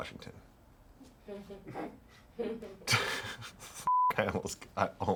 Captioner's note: everyone laughs; beep